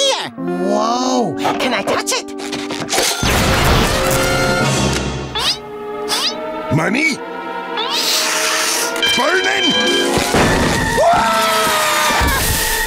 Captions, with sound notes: Whoa. Can I touch it? [sniffing] Money? [sniffing] Burning?! [screaming]